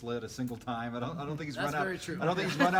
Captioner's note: laugh